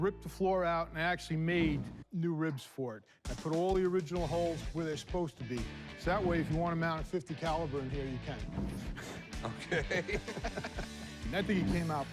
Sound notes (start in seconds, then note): 9.0 laughter